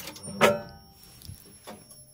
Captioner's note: clunk